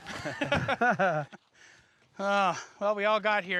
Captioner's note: laughter